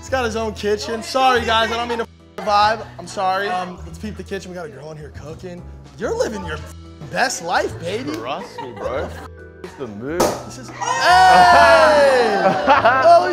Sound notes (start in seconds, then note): 10.2 champaign pops; 10.8 cheering